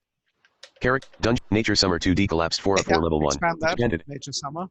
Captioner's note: computer Voice